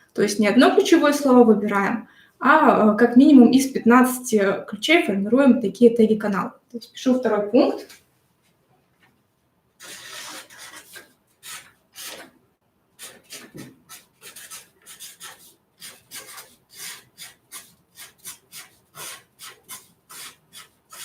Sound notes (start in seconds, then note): 13.0 marker scratching on paper